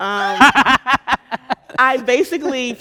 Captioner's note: laughing